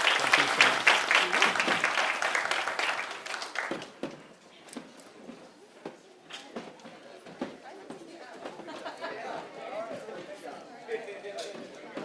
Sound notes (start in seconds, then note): 0.0 audience applauding; 5.6 indistinctive chattering